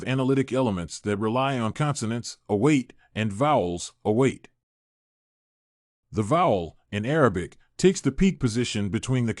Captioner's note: in Arabic